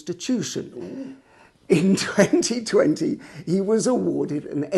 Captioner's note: giggling